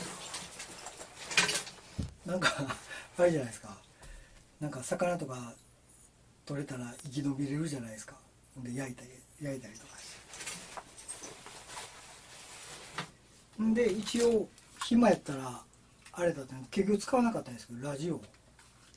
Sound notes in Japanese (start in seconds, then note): 10.6 笑い